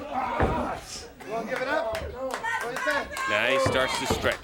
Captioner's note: crowd chatter